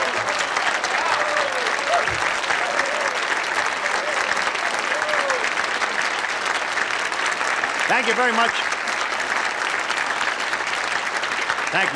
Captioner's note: applause